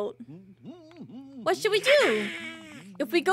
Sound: Donald Laughs

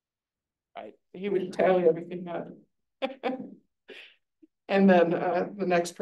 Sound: laughs

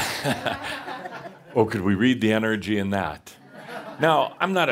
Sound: more chuckles

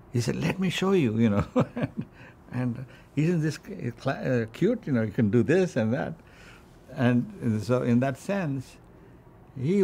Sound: laughs

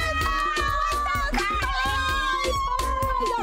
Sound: shouting

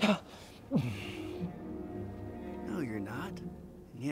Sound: Dwight gasps

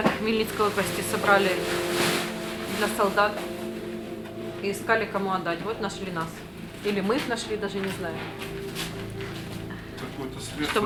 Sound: voice-over

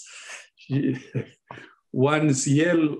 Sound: laughing

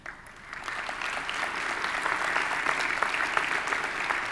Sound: audience applauding

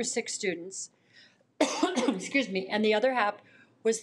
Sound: coughs

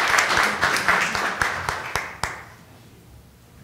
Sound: applause

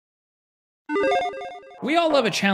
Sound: logo chiming

